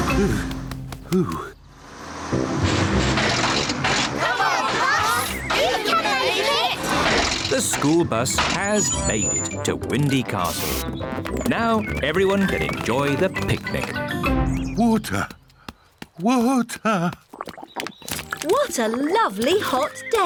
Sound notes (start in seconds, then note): 1.6 bus splutters